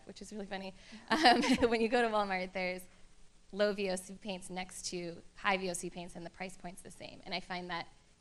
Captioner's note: laughter